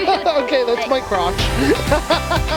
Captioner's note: more laughter; laughter; cheerful music